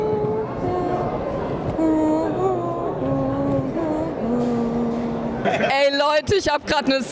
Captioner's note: theme is hummed